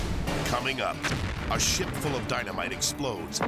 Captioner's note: graphic pounding; explosion booms; explosions booming